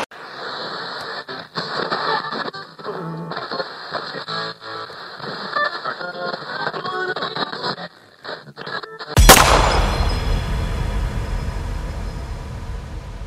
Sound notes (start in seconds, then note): 9.2 gunshot; 9.4 glass shatters